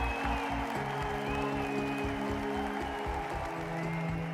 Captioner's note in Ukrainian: оплески